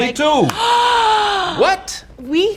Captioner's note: gasping